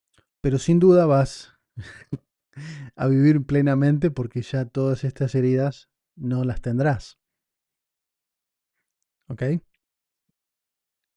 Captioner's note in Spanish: risas